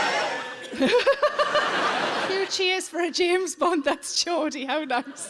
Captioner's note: audience laughing; laughs